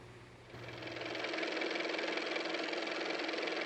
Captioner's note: car motor